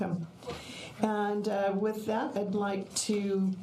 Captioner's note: none